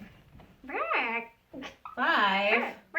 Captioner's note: chicken sounds